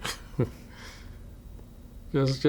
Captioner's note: laughs